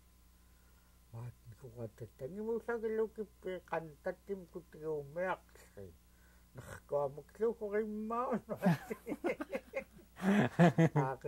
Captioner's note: laughter